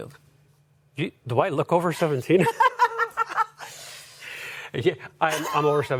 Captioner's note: laughter